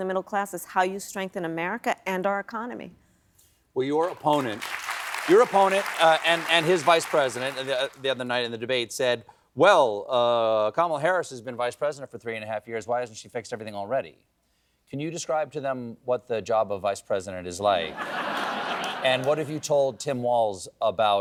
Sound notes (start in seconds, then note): 4.0 applause